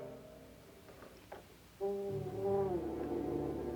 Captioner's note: creaking